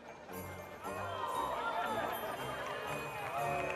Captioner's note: gasps from the crowd; applause